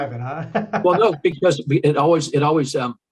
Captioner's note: interviewer laughs